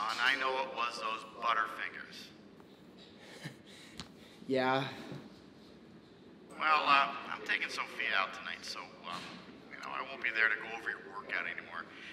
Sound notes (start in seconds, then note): 3.2 chuckles